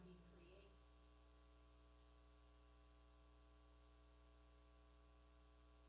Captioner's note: person speaking away from mic